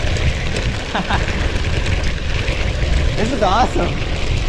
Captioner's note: laughs